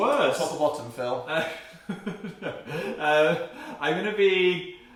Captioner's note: awkward laughter